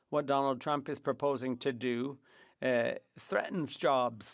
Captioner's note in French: voix de l'interprète